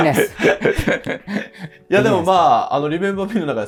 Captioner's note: laughing